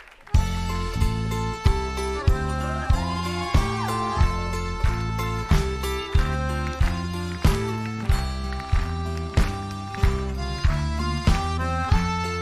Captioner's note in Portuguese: aplausos